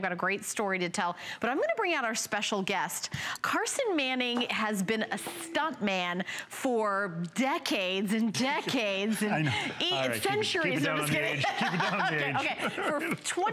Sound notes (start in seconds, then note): 10.8 laughter